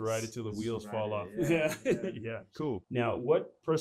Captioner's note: laughs